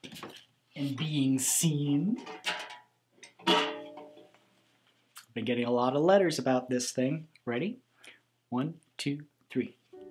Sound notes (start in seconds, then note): 3.3 bucket clangs